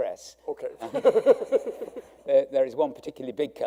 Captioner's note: laughing